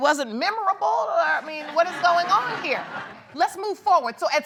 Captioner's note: audience laughs